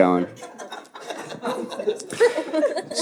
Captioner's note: audience laughing